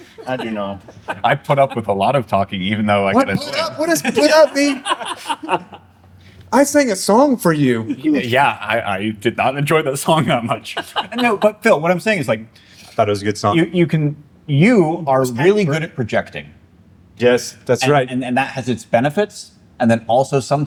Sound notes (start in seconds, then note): 3.4 laughter